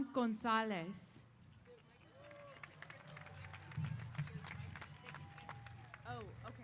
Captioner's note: applause & Cheers